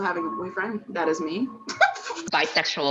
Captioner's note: laughs